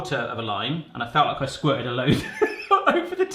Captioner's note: laughing